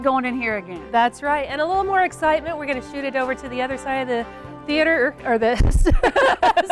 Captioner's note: laughing